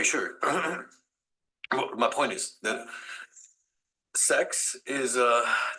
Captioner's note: clears throat